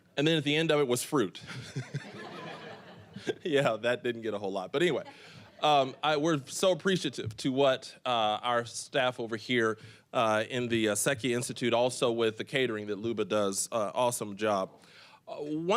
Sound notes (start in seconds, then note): 1.4 all laughing